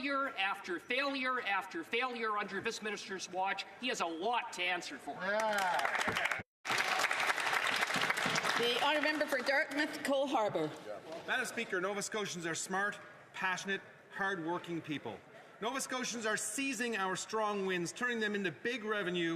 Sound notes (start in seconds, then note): 10.0 some Applause